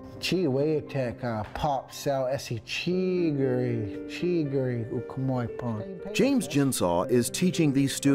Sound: speaks Yurok

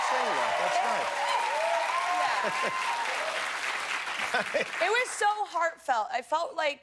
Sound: cheers and applause

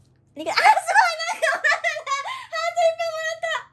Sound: laughs

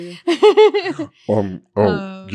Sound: laughing

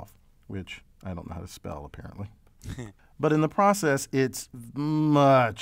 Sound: laugh

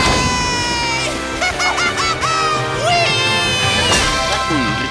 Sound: laughing

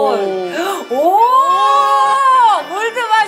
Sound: screams louder

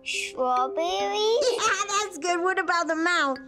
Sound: laughing

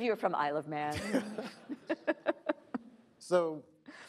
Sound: laughing

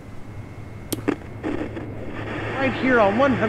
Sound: radio Static

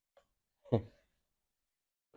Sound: chuckles

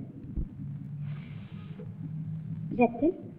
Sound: blows Air

